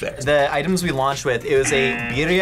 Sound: buzzer

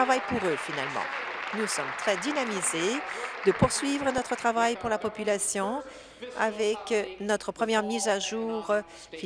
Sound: applause

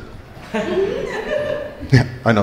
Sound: crowd laughing

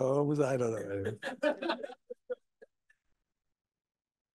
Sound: audience laughing

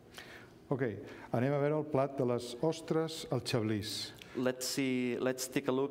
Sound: speaking catalan

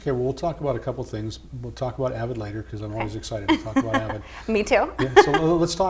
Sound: laughs

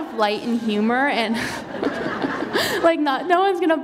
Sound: laughter

